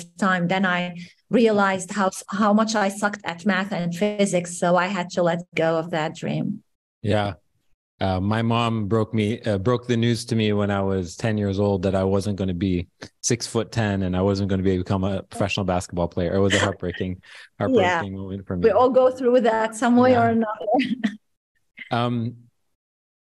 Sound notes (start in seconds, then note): 16.2 chuckles; 20.0 laughs